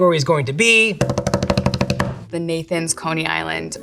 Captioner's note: hands tapping